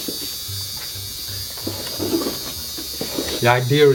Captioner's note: tattoo machine buzzing